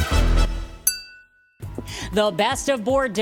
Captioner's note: glasses clinking